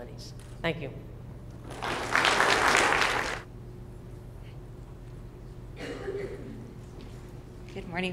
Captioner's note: applause